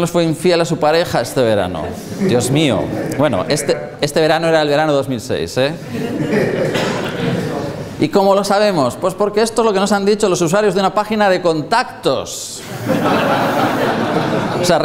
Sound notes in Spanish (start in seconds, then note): 5.8 risas; 12.6 risas